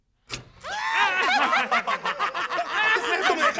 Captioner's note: laughs